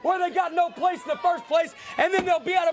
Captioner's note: crowd chatter